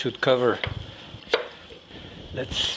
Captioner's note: knife thumping